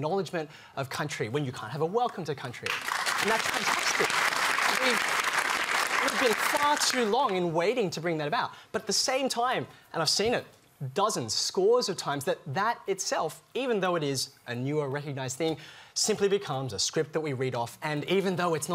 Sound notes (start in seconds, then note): 5.5 applause